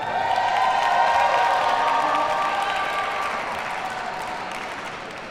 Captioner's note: audience cheers and applauds